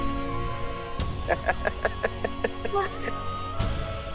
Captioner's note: laughing